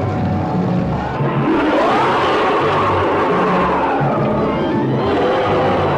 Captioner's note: creature roaring